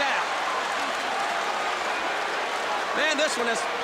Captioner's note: crowd cheering